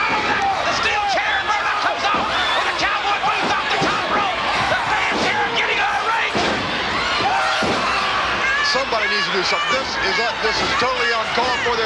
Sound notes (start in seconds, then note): 6.4 foot thudding